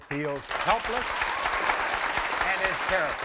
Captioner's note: audience applauds